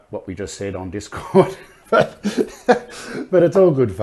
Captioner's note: laugh